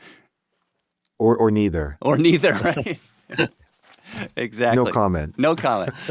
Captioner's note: laughs